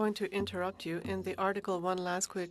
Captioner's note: speaking FRENCH